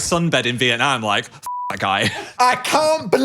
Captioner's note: beep